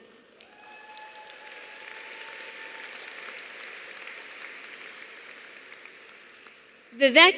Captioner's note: audience applauding; audience cheering